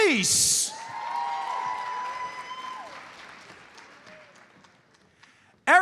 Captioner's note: audience cheers and applauds